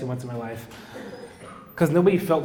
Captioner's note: audience laughing